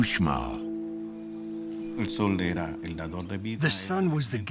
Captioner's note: speaking Spanish